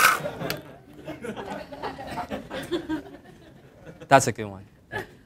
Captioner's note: laughter